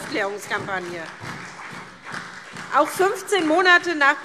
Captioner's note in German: Beifall SPD und DIE LINKE